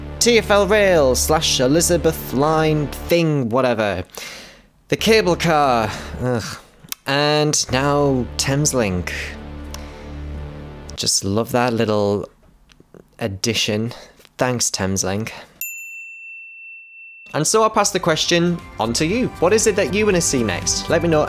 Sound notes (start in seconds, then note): 15.6 ding sound